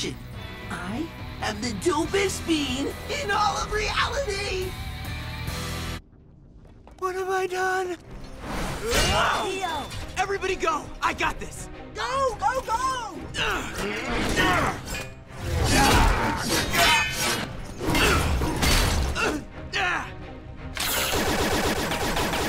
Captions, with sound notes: I am the dopest being in all of reality. What have I done? Leo! Everybody go. I got this. Go! Go! Go! [grunting] [clanking] [grunting] [shooting]